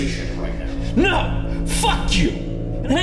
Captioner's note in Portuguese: gritando